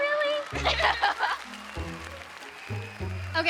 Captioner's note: laughs